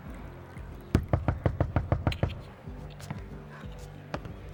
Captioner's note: knocking on door